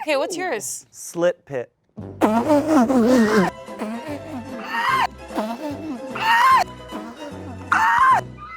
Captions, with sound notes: - Hey, what's yours? - Slit pit. (all laugh) (happy music)